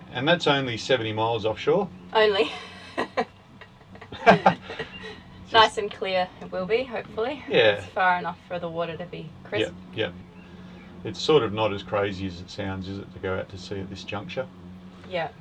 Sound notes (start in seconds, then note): 3.7 laughs